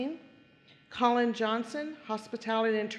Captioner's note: none